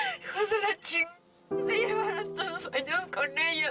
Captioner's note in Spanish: Sollozos